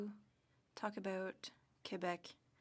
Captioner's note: speaking French